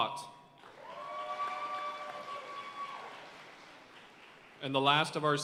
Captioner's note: audience cheering and applauding